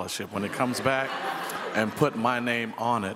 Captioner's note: people chuckle